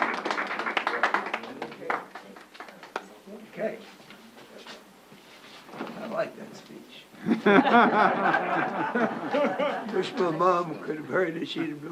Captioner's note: applause